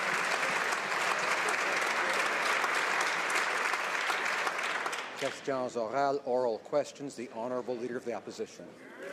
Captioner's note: applause